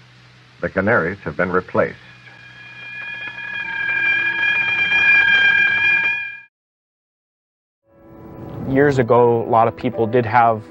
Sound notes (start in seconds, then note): 2.0 monitor alarm